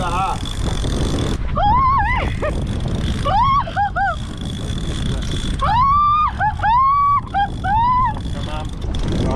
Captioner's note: screams